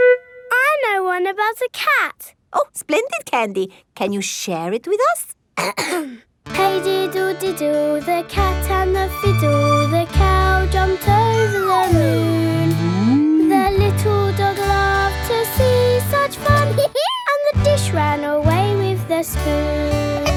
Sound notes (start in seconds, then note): 5.6 clears throat; 16.6 dog laughs